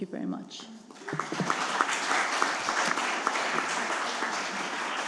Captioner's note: attendees clapping